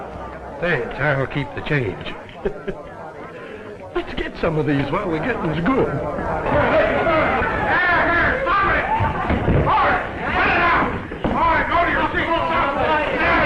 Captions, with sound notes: -Say, I'll keep the change. Let's get some of these while the getting's good. [clamoring and shouting] -Hey, hey, stop it! Hold it! Cut it out! All right, go to your seats.